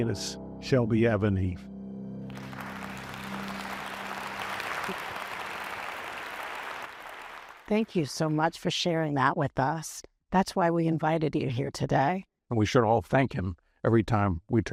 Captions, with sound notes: [applause] Thank you so much for sharing that with us. That's why we invited you here today. And we should all thank him every time